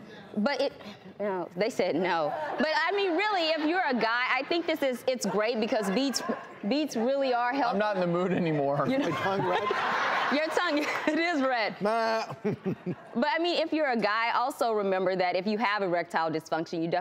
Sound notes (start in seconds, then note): 8.9 audience laughs